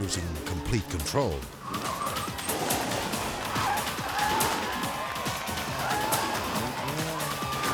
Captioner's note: lively music; car skidding